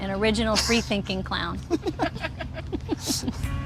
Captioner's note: both laugh